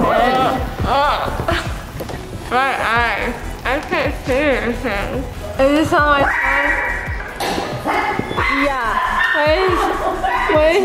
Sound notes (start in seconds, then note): 0.0 groans